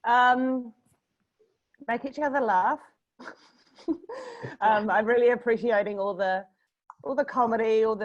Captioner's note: laughter